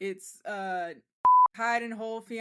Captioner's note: beep